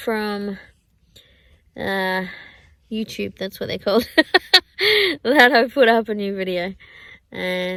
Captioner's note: laughs